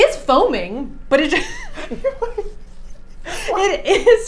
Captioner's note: laughing